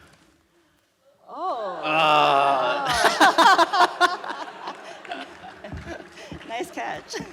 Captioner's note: laughs